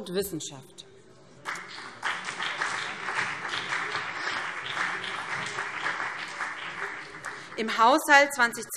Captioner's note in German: Beifall BÜNDNIS 90/DIE GRÜNEN und CDU